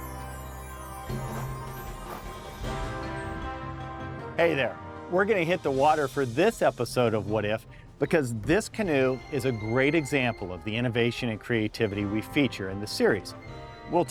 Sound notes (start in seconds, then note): 2.8 windchimes